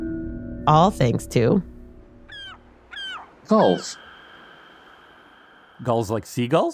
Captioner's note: seagulls squawking